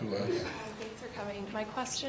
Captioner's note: voiceover